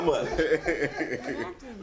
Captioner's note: laughs